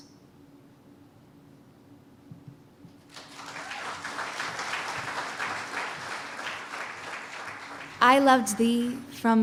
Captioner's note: cheers and applause